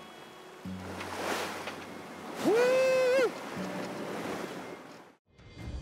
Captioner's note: rafting noises